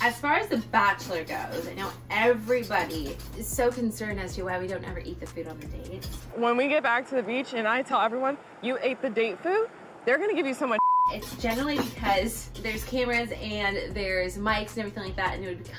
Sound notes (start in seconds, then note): 10.8 beep